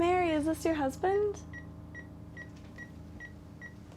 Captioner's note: beeping